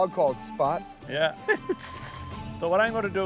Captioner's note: chuckles